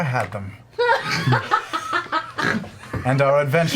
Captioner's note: all laugh